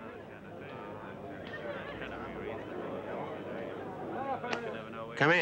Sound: people chattering

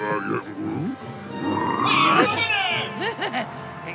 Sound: exclaims; rocket chuckles

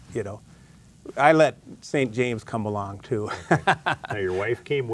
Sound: chuckles

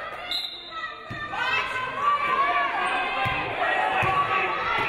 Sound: referee blows whistle

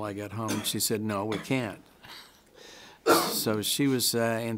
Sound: chuckles

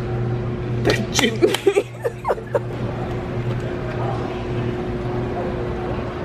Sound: laughing

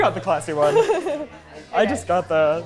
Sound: laughs

